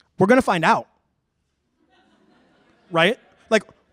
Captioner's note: laughter